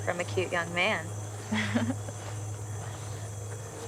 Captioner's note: chuckles